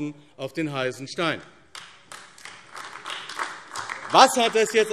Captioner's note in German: Beifall AfD